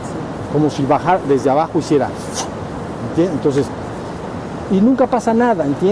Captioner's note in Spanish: sufff